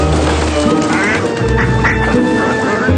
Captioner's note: quacking continues